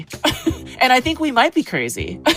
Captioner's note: chuckling